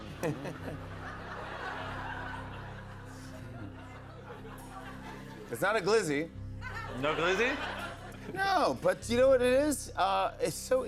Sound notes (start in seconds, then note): 0.0 chuckles; 1.5 laughter